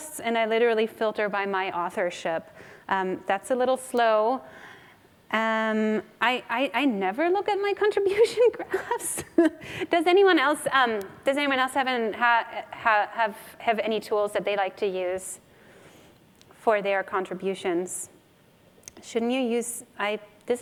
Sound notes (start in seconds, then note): 8.6 laughs